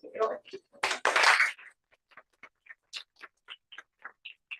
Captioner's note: applause